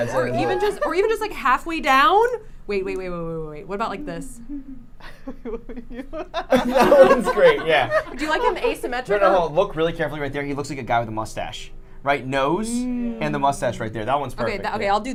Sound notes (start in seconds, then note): 5.1 everyone laughing